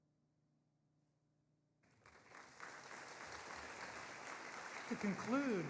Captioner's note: audience applauding